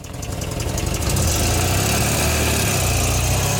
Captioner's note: engine roaring